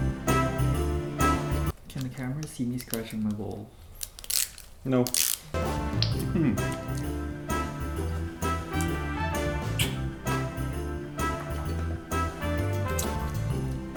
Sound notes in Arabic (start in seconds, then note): 4.6 أصوات فك اللفافة; 6.2 موسيقى كلاسيكية; 9.5 أصوات التقبيل